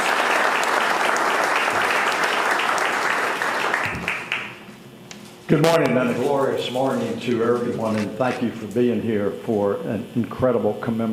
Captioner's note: applause